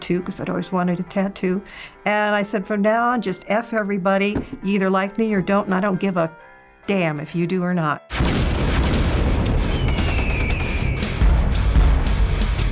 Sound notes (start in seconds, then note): 8.2 flames rage; 8.2 hardcore rock music; 9.7 eagle screeching; 9.9 nail gun firing